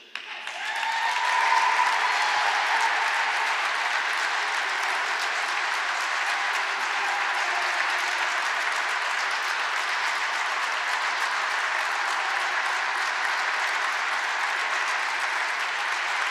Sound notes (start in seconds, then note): 2.5 applause